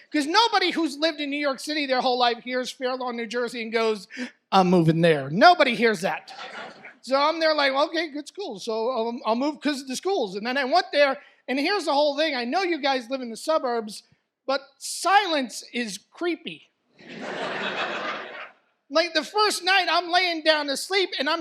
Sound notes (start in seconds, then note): 17.0 audience laughs